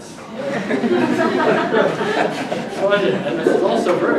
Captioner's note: audience laughter